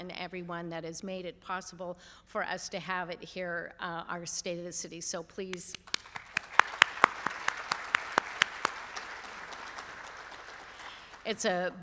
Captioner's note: applause